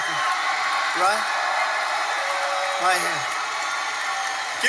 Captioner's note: cheering